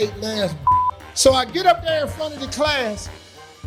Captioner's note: beeping